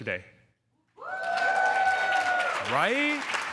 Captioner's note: crowd cheering